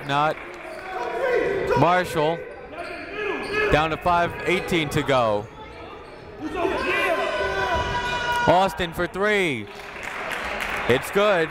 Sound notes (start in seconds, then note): 1.5 whistle blowing; 3.7 buzzer ringing; 9.7 clapping